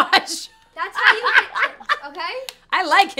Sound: laughs

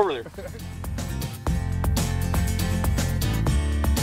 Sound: laughing

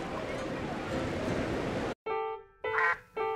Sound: quacking

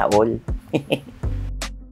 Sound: laughs

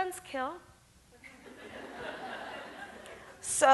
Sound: audience laughs

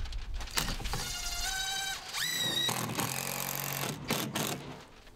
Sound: drill rattling loudly

